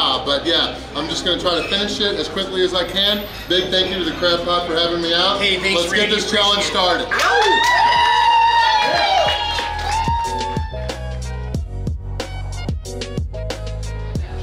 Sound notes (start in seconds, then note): 7.0 crowd cheering and applauding; 9.0 gentle upbeat music